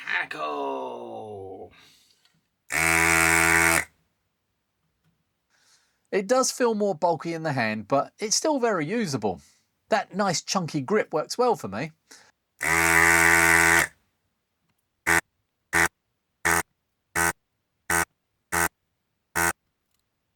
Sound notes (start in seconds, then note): 2.7 buzzer